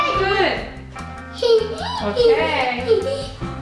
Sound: giggles

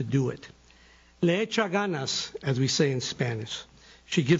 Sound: speaking foreign language

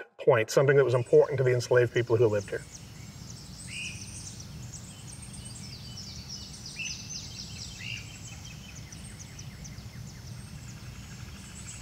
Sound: sounds of birds in the wild

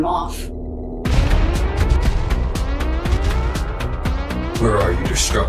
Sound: alarm blaring; spacecraft thumps

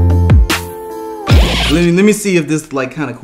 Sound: record needle scratching

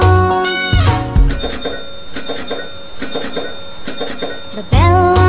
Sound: bell ringing

